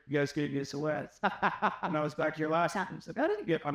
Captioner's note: laughter